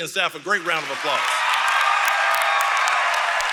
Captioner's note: applause